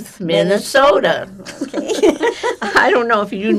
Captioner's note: laughing